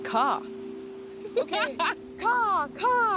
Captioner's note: laughing